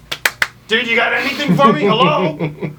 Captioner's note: claps hands; loud inhale; giggles